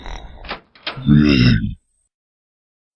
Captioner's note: Guma groans